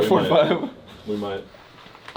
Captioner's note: laughs